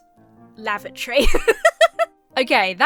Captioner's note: laughs